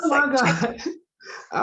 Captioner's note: laughter